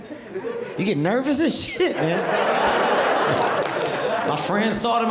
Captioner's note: audience laughing